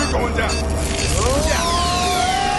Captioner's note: И двамата крещят